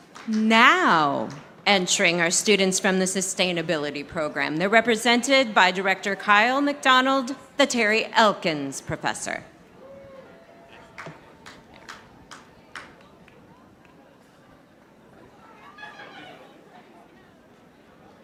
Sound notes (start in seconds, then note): 10.6 audience applauding; 14.3 audience chattering